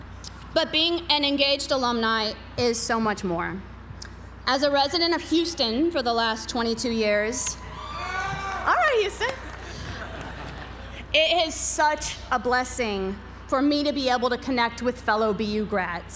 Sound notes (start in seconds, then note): 7.6 applause; 9.0 laugh